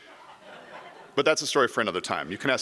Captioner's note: audience laughs